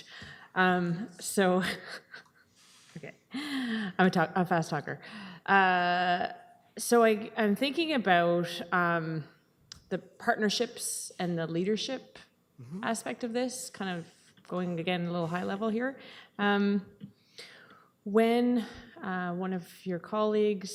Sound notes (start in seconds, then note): 3.1 laughing